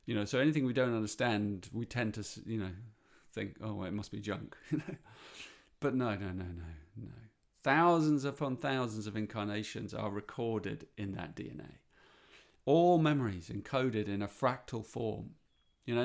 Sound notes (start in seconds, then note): 4.6 chuckles